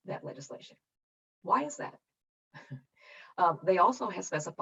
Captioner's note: chuckles